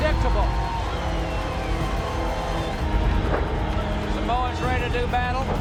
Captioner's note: crowd chatter